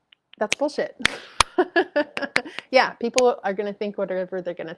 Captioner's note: chuckles